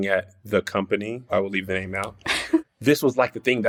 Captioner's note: laughs